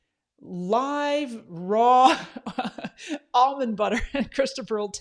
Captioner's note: laughs